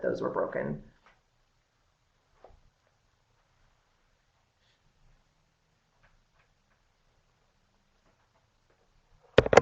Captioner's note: no sound - waiting for questions